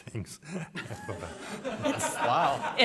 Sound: laughter

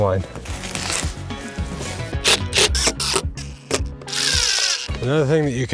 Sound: lively music; drill buzzing

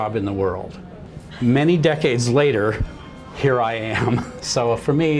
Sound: laughs

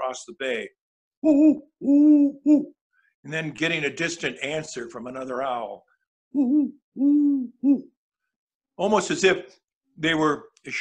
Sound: owl sounds

